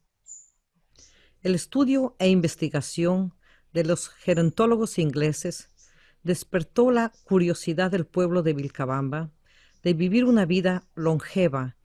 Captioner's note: VOICE-OVER in Spanish